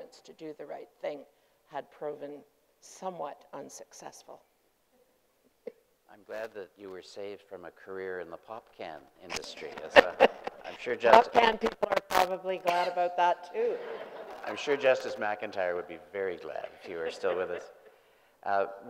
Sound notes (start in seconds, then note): 9.7 group laughing; 13.6 group laughing